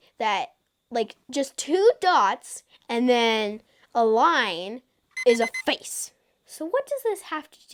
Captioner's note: alarm beeps